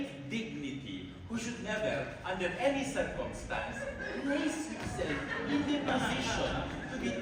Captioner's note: laughter